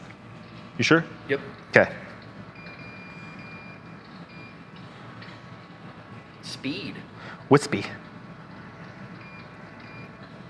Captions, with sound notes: - You sure? - Yup. - Okay. (remote beeping) - Speed. - Wispy.